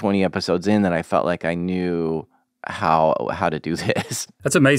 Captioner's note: laughs